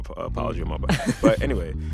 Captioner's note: laughter